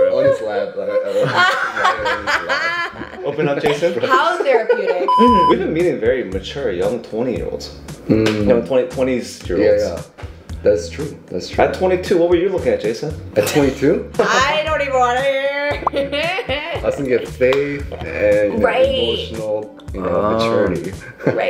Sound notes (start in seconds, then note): 5.1 loud beep plays; 15.6 laughs